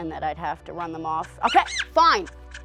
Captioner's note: squeaking